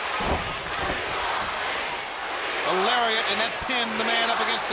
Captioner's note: crowd cheering